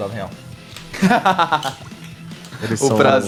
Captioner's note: laughs